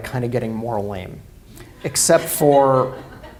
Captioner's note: laughter